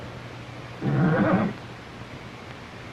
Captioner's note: horse whickers